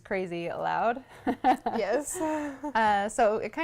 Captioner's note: laughs